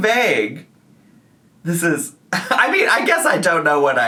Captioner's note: chuckles